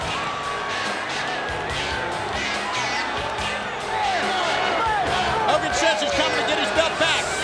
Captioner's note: crowd cheering